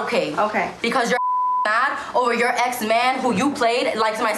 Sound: beep

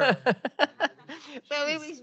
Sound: laughs

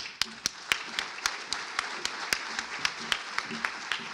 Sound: applause

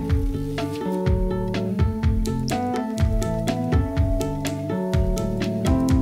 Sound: keyboard and viola play; typewriter clacking

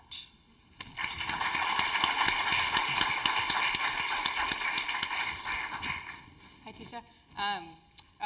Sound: applause

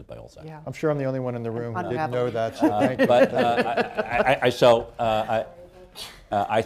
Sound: laughter

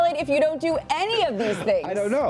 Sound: laughing

